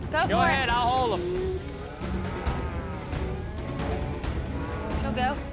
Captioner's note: cattle mooing